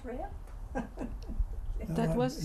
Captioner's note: laughs